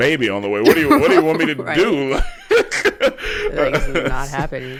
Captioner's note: laughs